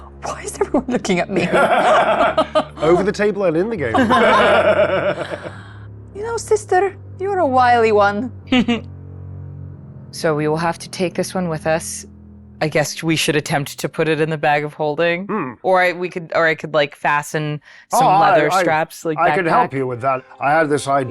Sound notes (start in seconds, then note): 3.9 chuckles